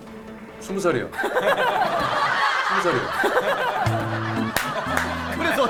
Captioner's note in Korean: 웃음소리